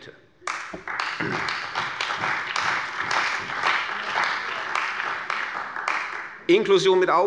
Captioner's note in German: Beifall bei der CDU und dem BÜNDNIS 90/DIE GRÜNEN